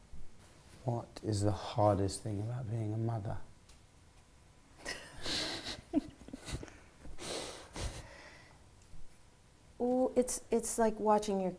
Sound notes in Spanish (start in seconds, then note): 4.8 risas